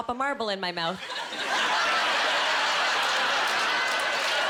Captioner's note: laughing